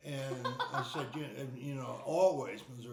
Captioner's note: laughing